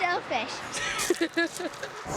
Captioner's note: giggling